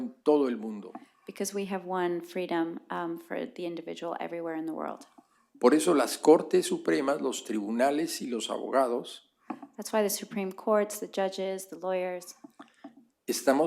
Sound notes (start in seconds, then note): 8.4 spanish